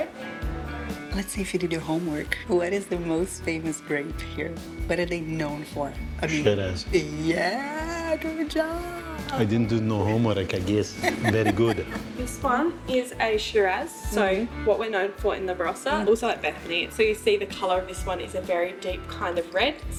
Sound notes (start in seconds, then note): 10.0 laughs